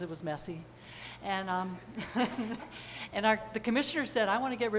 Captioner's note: chuckles